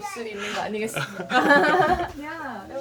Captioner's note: laughing